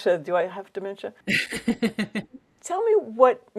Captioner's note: laughs